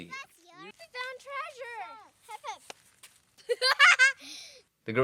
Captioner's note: laughter